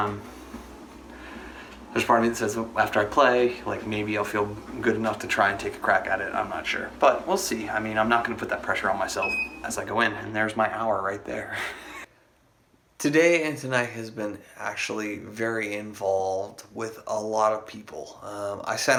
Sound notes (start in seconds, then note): 9.2 beep; 11.5 laughs